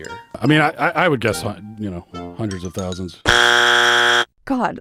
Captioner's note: buzzer